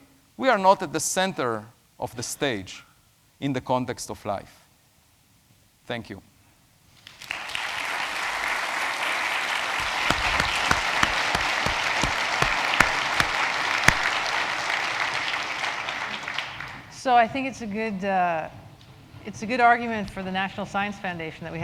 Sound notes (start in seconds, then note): 6.4 applause